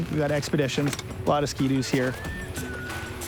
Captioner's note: tool clangs